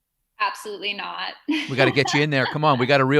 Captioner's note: laughs